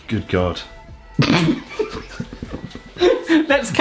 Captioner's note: laughing